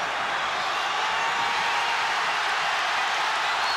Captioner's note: crowd cheers